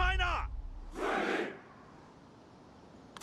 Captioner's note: chanting